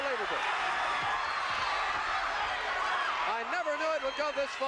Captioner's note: audience cheering